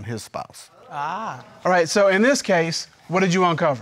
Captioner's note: crowd murmurs